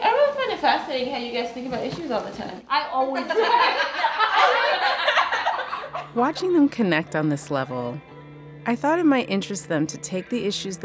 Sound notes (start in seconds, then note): 3.2 laughter; 6.0 voiceover